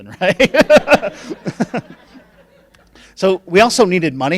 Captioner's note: laughing